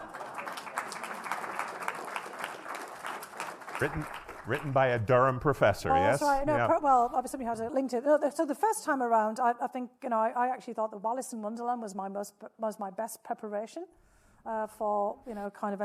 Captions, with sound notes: (audience applauding) - Written by a Durham professor. Yes. - Oh, that's right. No, well, obviously we have to link to, so the first time around, I think, you know, actually thought that "Alice in Wonderland" was my most, was my best preparation for, you know, kind